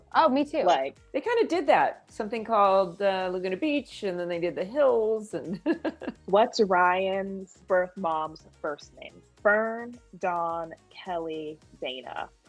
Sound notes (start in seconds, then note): 5.4 Melinda laughs